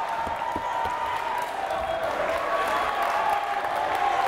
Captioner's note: crowd cheers